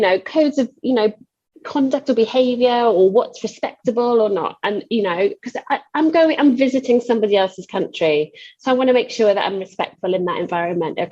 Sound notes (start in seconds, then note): none